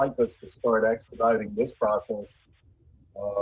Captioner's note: ~audio distortion~